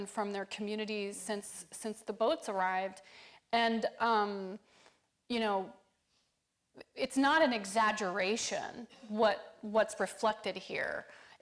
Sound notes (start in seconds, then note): none